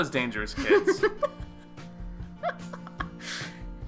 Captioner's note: laughing because is right